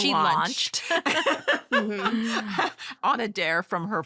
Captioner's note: laughter